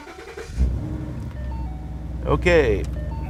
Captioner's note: car starting